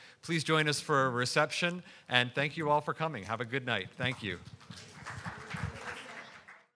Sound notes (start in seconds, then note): 4.0 audience applauding; 4.8 audience chattering